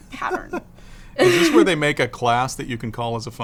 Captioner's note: laughs